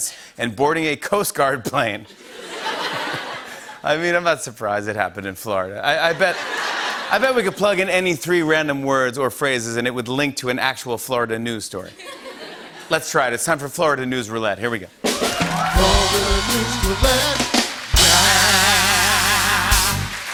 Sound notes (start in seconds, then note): 2.1 laughter; 6.1 laughter; 15.1 cheers and applause